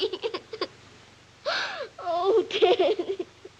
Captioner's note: sobbing